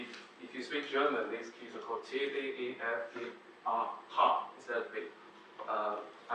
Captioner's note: reads in german